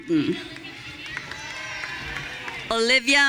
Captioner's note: audience cheering